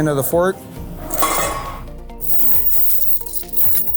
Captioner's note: chains banging; upbeat music